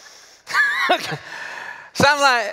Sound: laughter

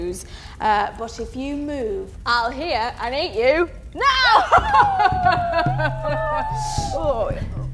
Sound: evil laugh

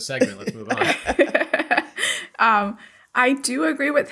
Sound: laughter

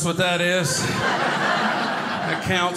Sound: audience laughing

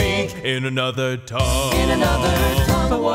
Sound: in another tongue

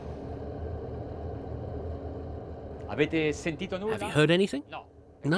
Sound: engine hum

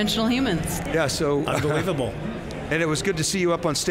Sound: chuckles

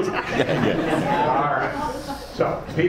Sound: laughing

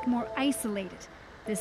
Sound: speaking Foreign Language

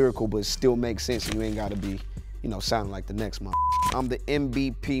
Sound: beep

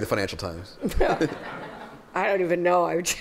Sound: laughter

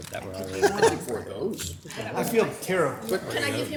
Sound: council member laughs

